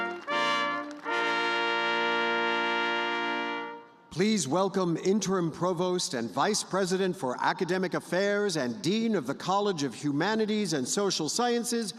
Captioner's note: applause